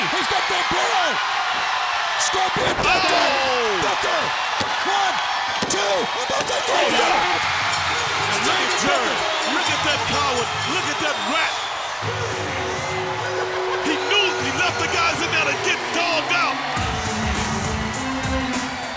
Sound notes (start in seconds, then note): 6.7 bell ringing; 12.0 upbeat electronic music